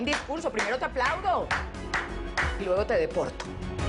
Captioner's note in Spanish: Aplausos